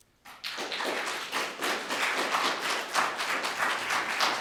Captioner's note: audience applauding